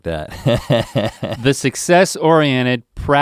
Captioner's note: laughing